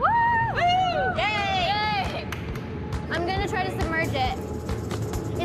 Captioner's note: cheer